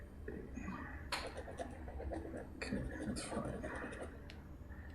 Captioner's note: pen scratching